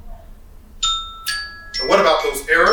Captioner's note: alarm chiming